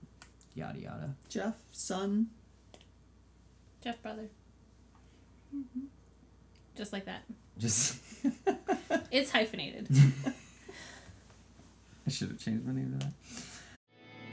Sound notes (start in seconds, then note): 8.1 laughs